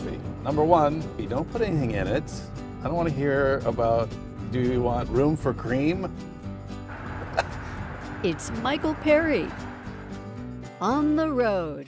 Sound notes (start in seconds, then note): 7.0 chuckles